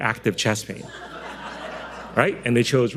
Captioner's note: audience loudly laughing